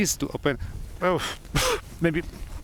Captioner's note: coughing